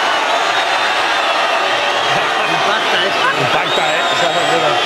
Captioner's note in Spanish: Ovación